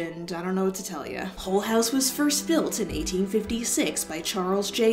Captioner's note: In Ryan Bergara Ghoul Boy Narrator Voice